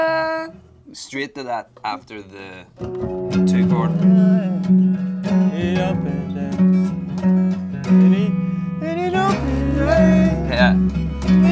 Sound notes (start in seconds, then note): 0.2 hums melody; 4.9 hums melody